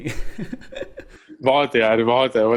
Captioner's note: laughing